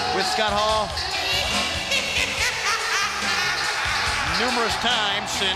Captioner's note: laugh